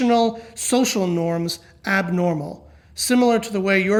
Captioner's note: none